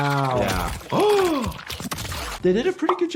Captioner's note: gasps